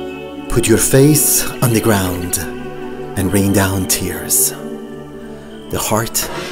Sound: narrator recites poem

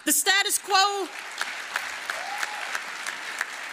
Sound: applause

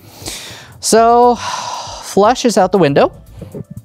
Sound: sighs

